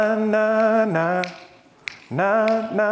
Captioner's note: fingers snapping